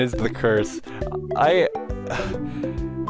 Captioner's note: sigh